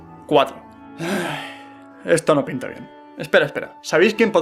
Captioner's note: sigh